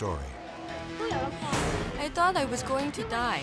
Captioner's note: speaking in foreign language